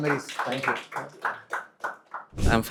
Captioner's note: audience claps